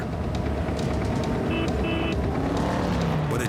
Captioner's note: honking